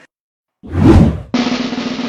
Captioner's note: whoosh; drumroll